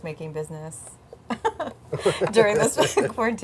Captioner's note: laughs